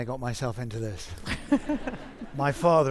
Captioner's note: audience laughing